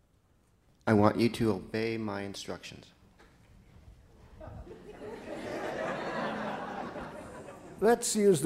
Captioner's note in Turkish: Gülüşmeler